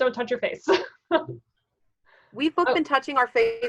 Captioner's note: laughing